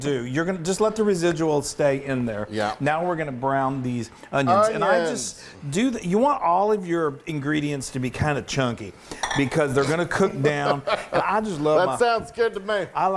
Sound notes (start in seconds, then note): 10.5 laughs